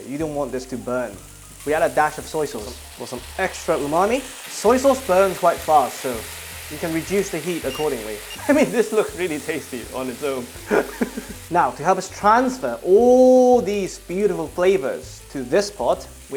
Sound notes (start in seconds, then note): 10.6 laughs